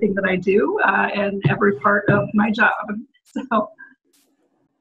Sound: laughs

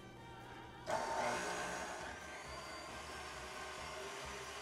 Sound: mixer whirring

